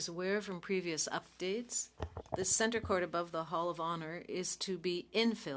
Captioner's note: speaking French